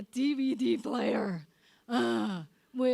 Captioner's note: sighs